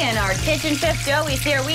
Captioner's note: sizzling